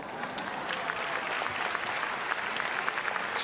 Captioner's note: applause